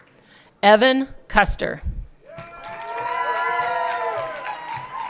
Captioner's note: everyone cheering